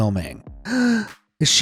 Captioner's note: gasp